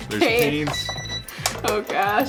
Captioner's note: timer beeping